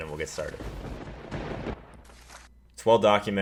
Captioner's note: thunder rumbling